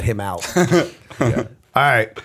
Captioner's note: laughter